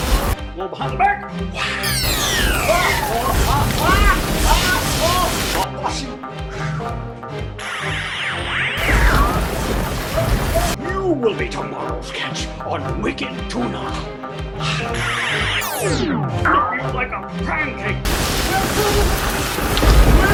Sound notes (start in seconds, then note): 2.0 thunder; 2.4 screaming; 8.8 thunder